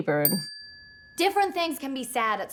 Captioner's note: bell ringing